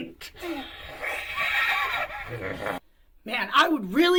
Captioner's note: Katey hissing